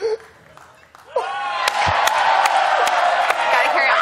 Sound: audience cheers

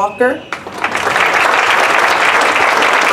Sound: applause

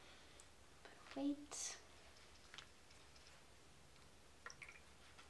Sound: bleach dripping

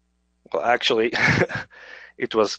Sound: chuckles

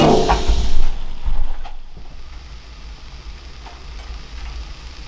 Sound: skillet clanging; food sizzling

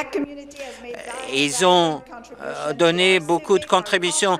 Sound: speaking French

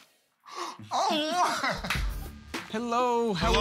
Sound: gasps

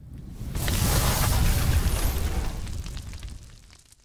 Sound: logo sizzling

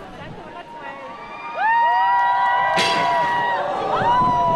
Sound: crowd cheers

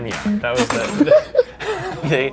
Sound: laughs

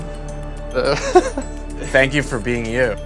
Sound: laughing

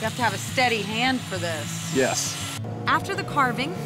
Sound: sawing

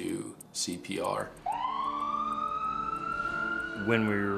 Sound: ambulance sirens

